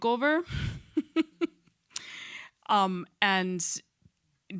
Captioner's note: chuckles